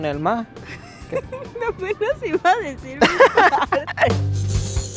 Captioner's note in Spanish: Risas